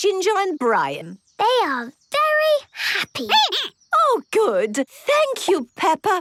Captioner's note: squeaking